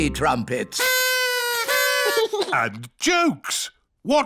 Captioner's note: blowing